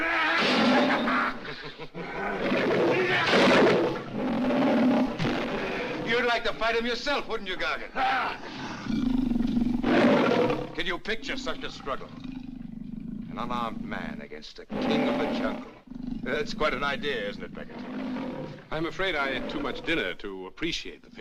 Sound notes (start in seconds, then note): 0.0 yells; 0.6 chuckles; 13.7 growling Continues